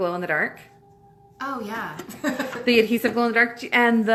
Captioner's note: laughs